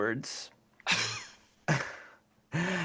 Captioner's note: laughing